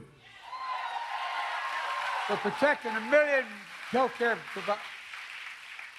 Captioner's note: applause